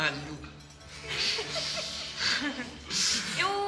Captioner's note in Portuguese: risadas